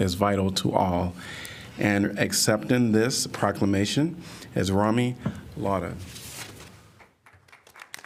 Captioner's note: applause